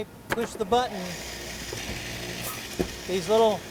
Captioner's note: drill bits whirring